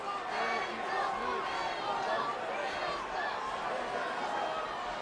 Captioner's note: crowd chattering